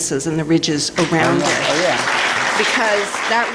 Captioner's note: applause